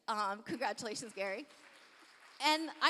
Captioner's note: applause